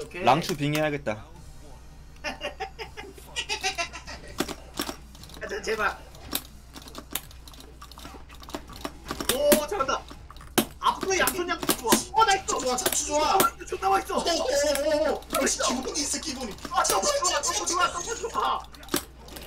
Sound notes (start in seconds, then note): 15.5 speaking Korean